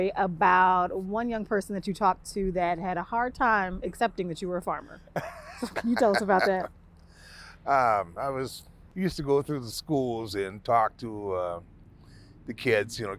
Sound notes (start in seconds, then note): 5.0 laughing